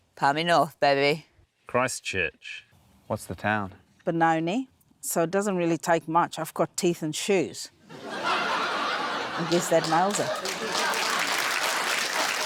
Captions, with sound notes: - Palmy North, baby. - Christchurch. - What's the town? - Benoni. So it doesn't really take much. I've got teeth and shoes. (LAUGHTER) I guess that nails it. (APPLAUSE)